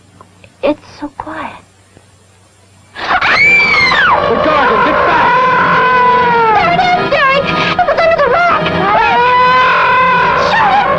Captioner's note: betty screams